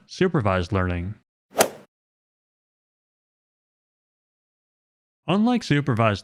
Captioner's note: golf swing sound effect